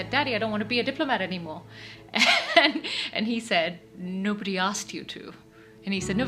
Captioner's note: laughs